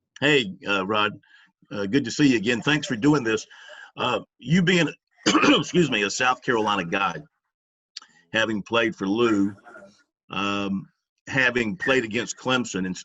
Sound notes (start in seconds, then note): 5.2 coughs